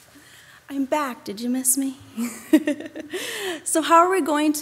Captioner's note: chuckles